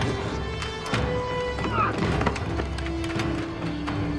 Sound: grunts

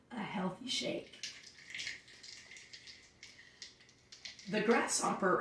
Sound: liquid sloshing

